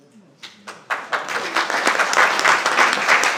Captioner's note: applause